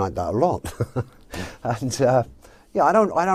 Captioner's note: laughs